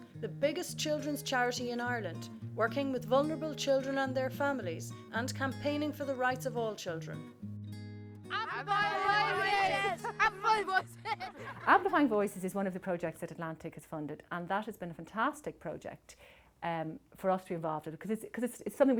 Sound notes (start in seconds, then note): 8.9 laughter